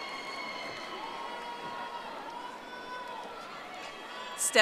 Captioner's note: audience applauding